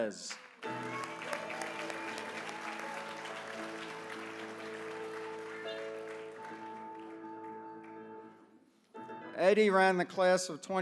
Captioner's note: applause